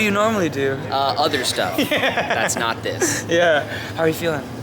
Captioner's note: laughing